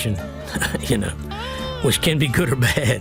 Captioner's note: chuckling